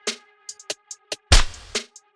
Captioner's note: slap